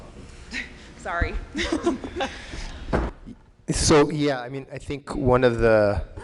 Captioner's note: laughter